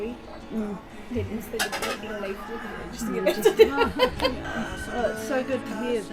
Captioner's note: laughing